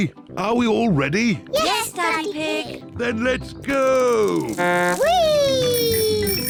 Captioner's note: blows horn